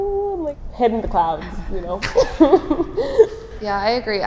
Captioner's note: laughs